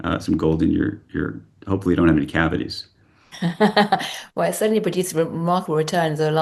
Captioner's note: laughs